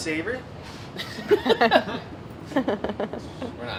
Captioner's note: laughing